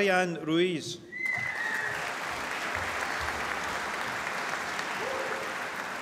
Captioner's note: applause